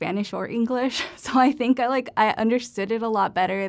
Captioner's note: laughter